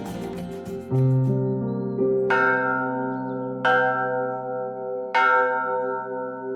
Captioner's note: bell ringing; somber music